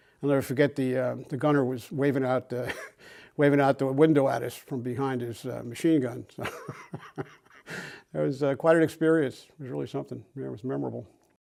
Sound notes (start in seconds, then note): 6.4 laughs